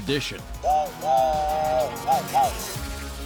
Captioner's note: imitating train whistle